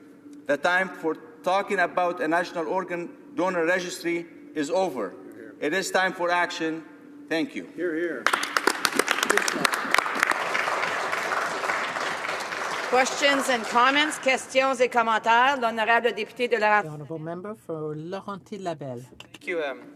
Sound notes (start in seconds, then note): 14.7 applause